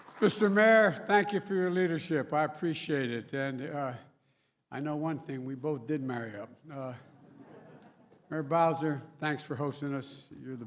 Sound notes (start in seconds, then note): 0.0 applause; 7.1 laughter